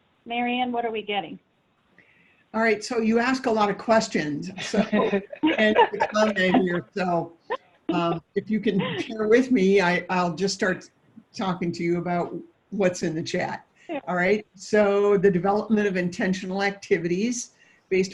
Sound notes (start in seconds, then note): 4.5 laughing